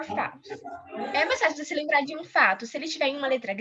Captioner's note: non-english